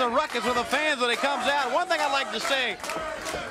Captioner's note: crowd cheering